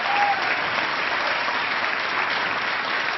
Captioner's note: applause